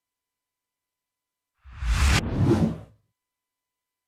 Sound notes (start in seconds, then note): 1.8 computer digital swoosh